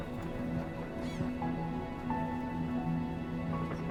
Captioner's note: seagulls squawking